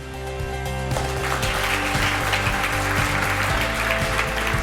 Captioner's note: applause